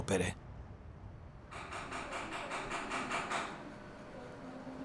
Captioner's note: bangs